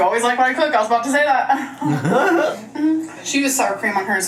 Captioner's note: laughs